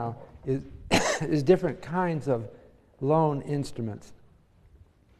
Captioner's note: cough